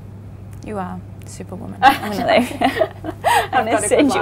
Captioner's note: laughs